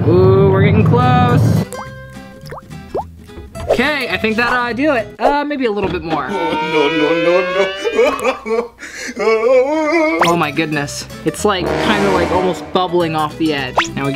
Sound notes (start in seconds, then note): 2.3 dripping; 6.2 crying